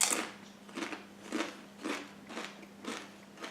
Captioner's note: omnoms; munches and crunches